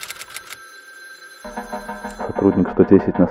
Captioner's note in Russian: звонок телефона